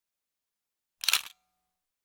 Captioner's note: camera shutter click